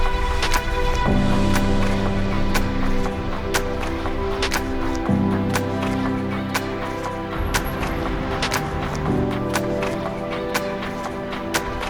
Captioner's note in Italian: Applauso